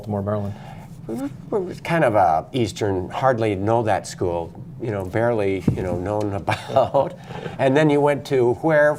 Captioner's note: laughter